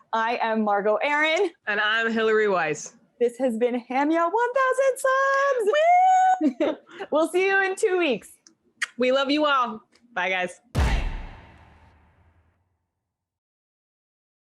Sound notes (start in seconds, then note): 5.6 cheers